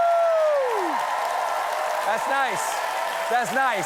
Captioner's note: cheers and applause